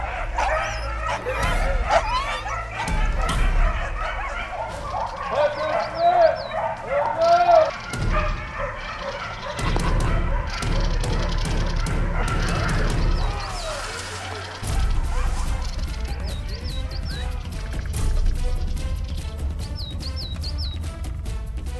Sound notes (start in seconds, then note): 0.8 dogs barking; 0.8 dramatic music; 18.0 intense music